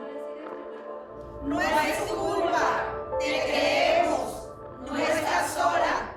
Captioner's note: speaking foreign language